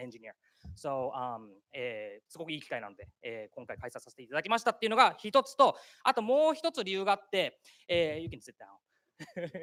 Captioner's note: speaking japanese